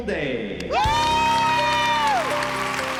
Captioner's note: cheering